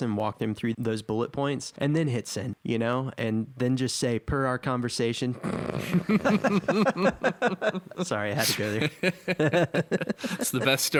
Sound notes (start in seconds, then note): 5.4 snorts; 9.4 laughing